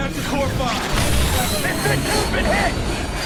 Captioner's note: explosion; voiceover